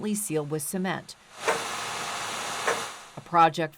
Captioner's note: machinery whirring